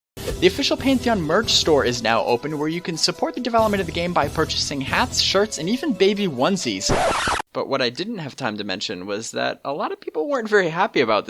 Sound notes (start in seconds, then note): 6.8 record scratch